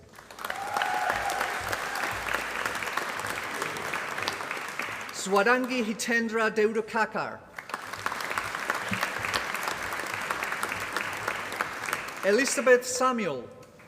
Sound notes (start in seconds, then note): 0.0 applause; 7.5 applause